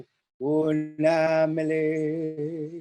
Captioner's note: chanting